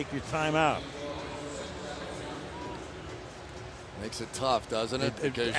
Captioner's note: pa announcement